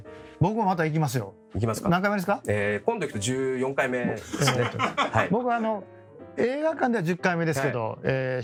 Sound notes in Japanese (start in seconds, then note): 4.2 笑い